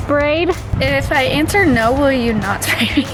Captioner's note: chuckles